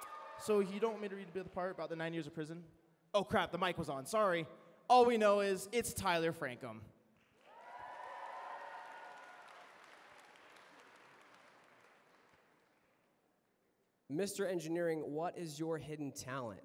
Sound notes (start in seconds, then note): 7.2 applause